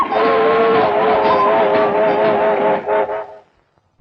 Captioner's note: train whistling